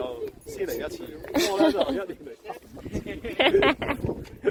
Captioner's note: laughs